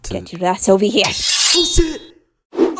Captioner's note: Miss Circle's compass scrapes